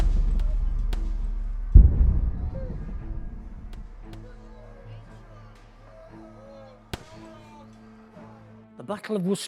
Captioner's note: distant gun fire and shouting